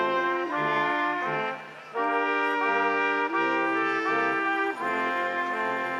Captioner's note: instrumental music continues; crowd applauding